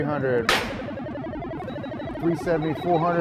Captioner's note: tool snaps